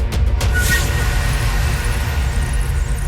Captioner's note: rats squeaking